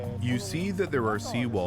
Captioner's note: speaking Japanese